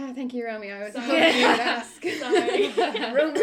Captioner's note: chuckles